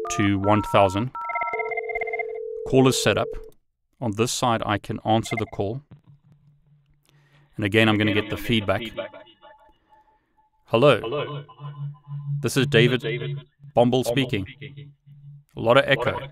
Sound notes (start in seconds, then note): 1.7 phone rings; 10.6 feedback echoes